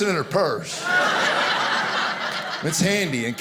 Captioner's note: audience laughing